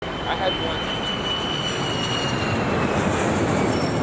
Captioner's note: plane engine roaring